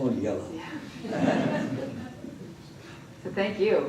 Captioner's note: laughter